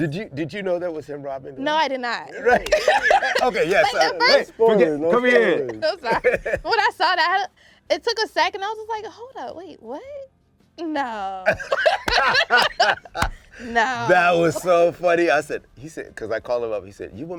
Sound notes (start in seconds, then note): 5.7 laughs; 11.4 laughter